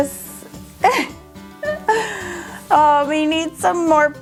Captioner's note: laughs